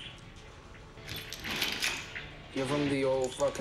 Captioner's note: gun clicks